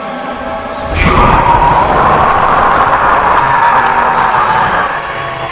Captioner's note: demonic scream